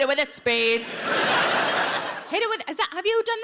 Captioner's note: audience laughs